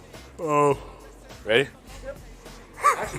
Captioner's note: yawns; yawns